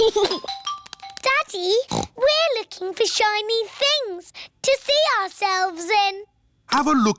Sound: giggles; snorts

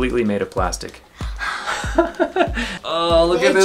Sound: laugh

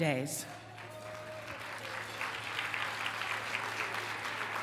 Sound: applause

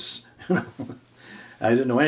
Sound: chuckling

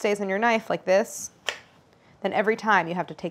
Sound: apples slicing

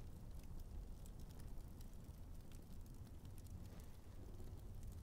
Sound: none

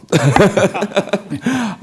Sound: laughter

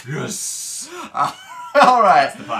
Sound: laughs

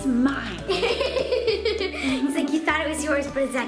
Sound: laughs

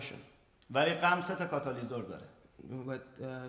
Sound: speaking in farsi

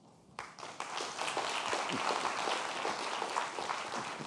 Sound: audience applauds

